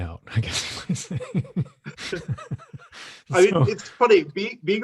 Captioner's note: laughs